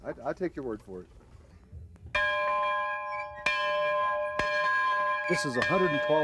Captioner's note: bell ringing